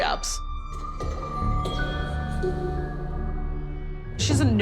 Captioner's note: footsteps